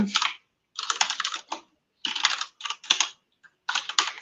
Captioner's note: typing